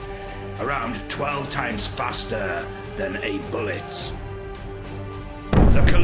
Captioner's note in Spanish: Explosión